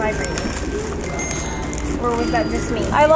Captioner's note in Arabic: جرس هاتف خلوي